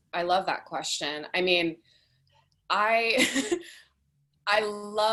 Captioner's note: chuckles